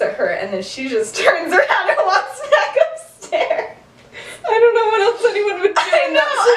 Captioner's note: laughter